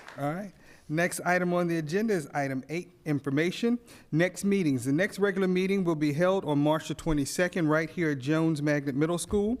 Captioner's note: applause